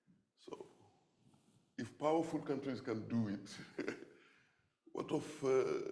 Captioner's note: laughs